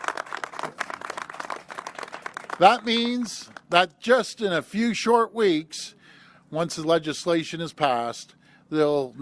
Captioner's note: applause